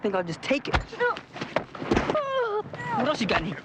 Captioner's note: Huck groaning